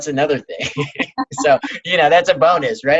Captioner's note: laughing